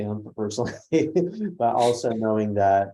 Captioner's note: laugh